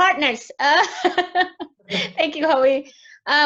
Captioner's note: laughs